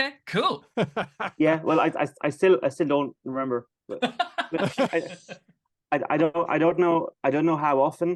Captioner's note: laughter